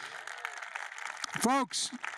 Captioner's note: applause